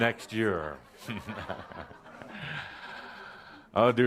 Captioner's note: laughter, chuckling